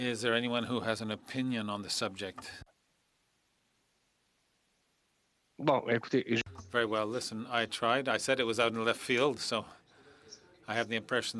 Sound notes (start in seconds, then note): 1.5 speaking French